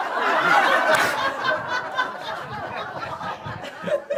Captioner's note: laughter